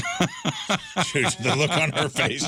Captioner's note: laughing